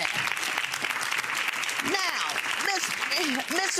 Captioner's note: crowd applause